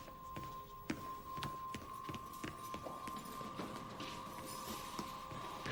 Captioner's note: running footsteps echo